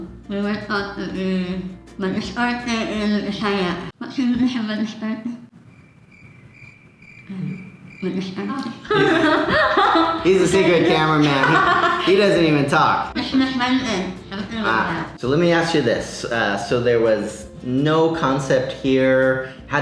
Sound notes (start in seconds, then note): 5.5 crickets chirp; 8.7 laughs